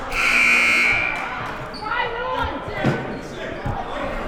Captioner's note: siren blaring